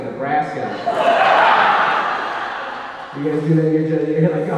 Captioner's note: audience laughing